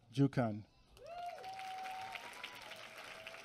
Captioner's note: applause